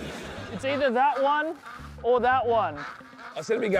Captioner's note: ducks quacking